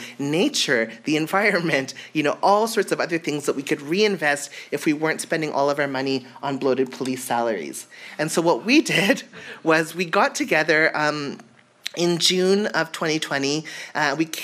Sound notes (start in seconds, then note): none